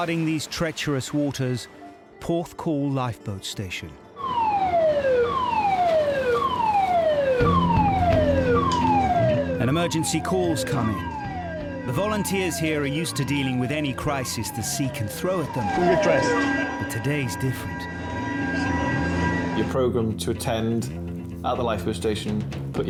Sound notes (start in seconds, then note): 4.5 sirens blare; 7.5 dramatic music